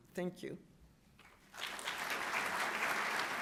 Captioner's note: applause